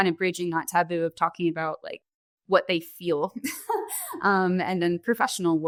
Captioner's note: laughing